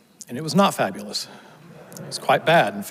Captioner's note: audience laughs